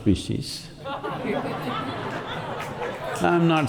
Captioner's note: laughter